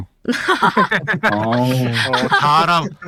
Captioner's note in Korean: 웃음